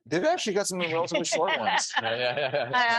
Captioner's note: laughing